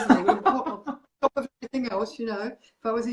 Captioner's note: laughs